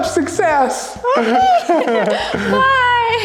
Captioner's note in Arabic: يضحكون معا بهدوء